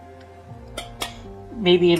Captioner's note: tap, tap